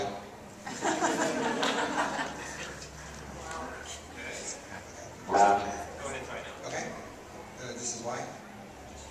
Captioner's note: audience laughs